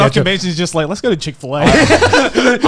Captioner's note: laughing